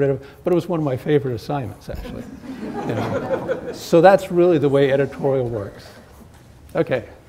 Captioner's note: laughter